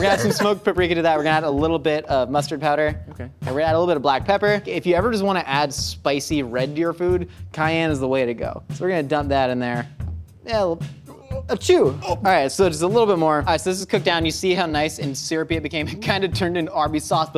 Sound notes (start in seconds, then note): 0.0 laughs; 11.1 exclaims; 11.9 mimics sneezing